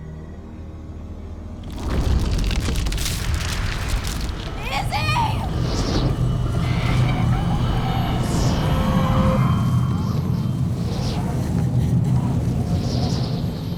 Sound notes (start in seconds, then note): 1.6 crackling; 1.6 body rumbling; 6.6 distant voice wailing; 9.4 wind rushing